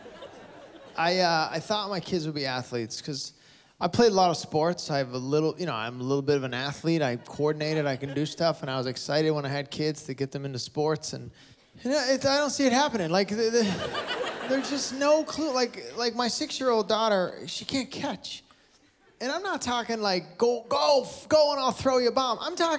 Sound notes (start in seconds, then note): 13.6 laughter